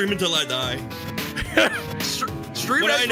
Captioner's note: laughs